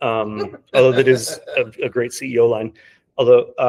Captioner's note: laughing